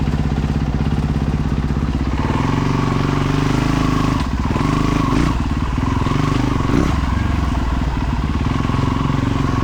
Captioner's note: engine roaring